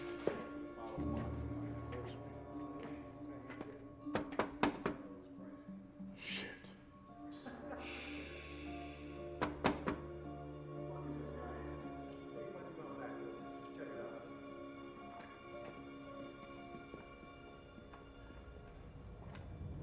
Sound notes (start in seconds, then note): 0.0 police officers chattering; 3.9 knocking on window